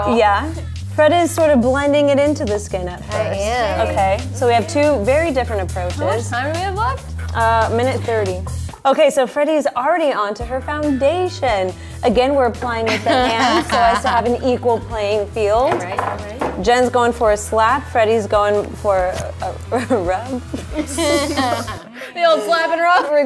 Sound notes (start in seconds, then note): 20.4 laughs